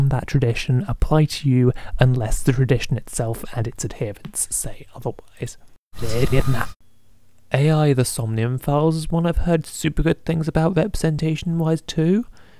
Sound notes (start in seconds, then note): 5.9 rewind noise